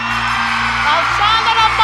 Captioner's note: students cheering